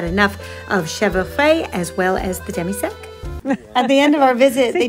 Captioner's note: speaking in foreign language